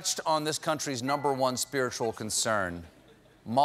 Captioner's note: laughter